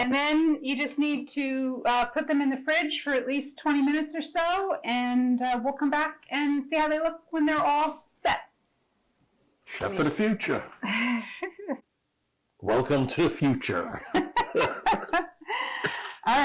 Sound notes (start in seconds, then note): 10.8 giggling; 13.9 both laughing